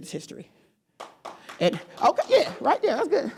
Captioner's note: applause